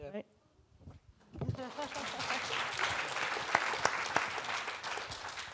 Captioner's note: audience applauding